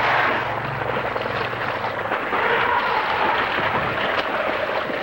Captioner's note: Χειροκρότημα